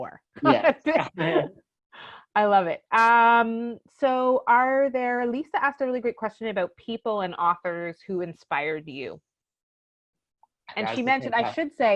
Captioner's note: laughs